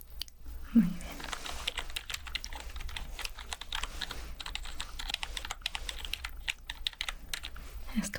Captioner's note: typing sounds